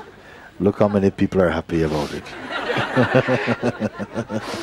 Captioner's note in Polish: śmiech